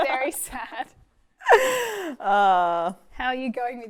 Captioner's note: laughing